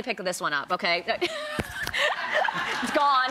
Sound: laughs

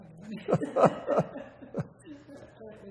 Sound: laughter

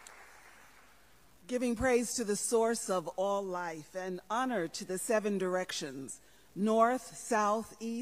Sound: applause

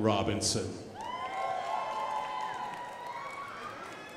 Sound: crowd applauding

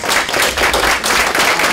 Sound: clapping

